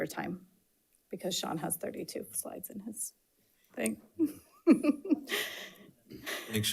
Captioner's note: laughs